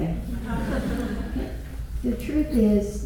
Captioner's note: laughter